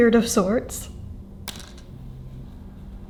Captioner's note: hair clip clatters down in relief